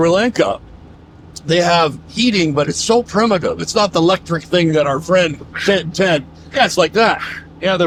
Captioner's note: Pino imitates blowing